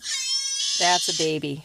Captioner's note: ‘Alalā vocalizations, sounding like a crying child